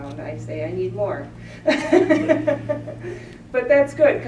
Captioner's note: laughter